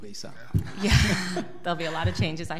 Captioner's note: laughs